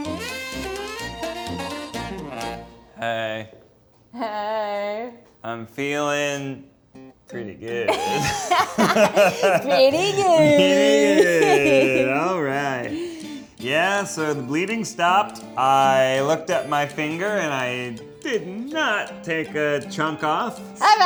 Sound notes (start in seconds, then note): 0.0 upbeat music; 7.8 laughter